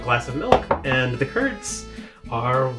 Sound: glass tapping

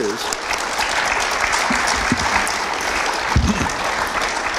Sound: audience applauds

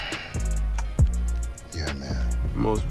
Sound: sigh

